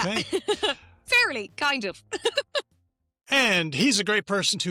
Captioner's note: laughs